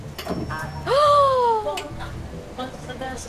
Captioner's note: Jenna gasps